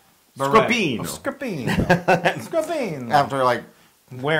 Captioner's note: laugh